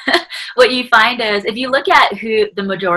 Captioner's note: laughing